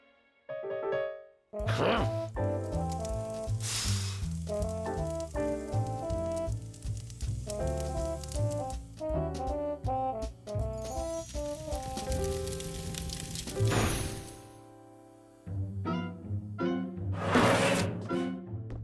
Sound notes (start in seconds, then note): 2.6 fire crackling; 3.6 blows; 7.0 fire crackling